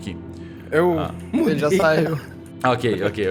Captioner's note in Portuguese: risada